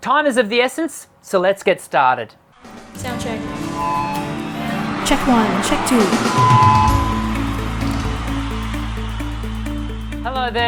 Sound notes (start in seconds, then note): 3.4 microphone screeching; 6.9 upbeat music; 8.8 applause